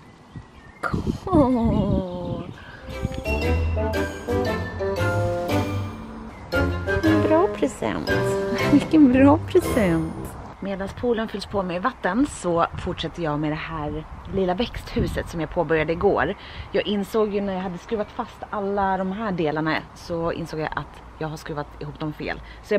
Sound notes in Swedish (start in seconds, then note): 8.5 skratt